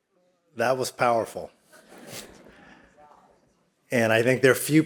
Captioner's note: all laughing